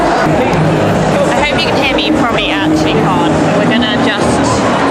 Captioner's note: lots of crowd noise